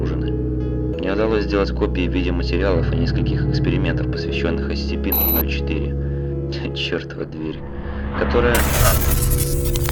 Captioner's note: static